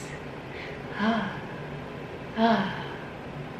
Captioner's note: sighs